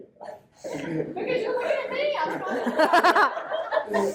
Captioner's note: laughter